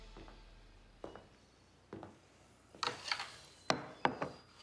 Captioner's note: footsteps approaching